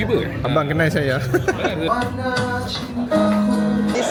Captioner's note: laugh